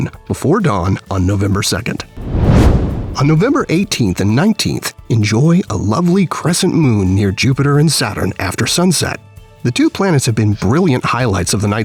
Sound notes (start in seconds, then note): 2.2 whoosh